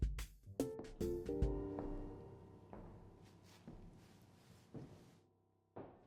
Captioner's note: upbeat music; footsteps